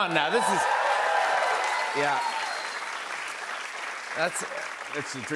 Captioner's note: cheers and applause